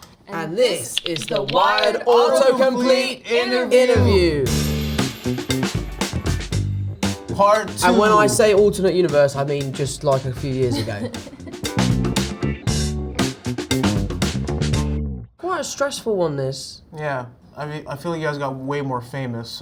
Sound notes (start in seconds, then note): 4.4 upbeat music; 10.6 Zendaya laughing; 11.5 upbeat music